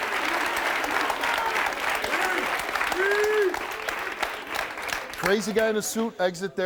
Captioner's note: audience clapping